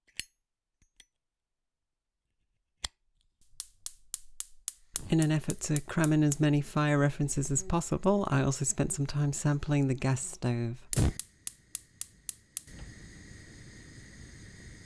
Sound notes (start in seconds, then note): 0.0 clink sound of the lighter opening and closing; 3.4 gas igniter clicking sound; 10.8 sound of the flame roaring to life; 12.4 sound of the gas flowing